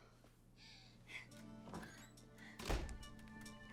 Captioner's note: woman whimpers